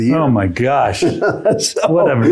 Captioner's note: laughs